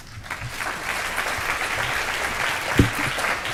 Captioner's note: applause